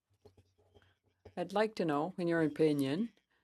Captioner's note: speaking french